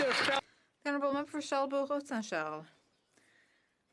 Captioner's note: some Applause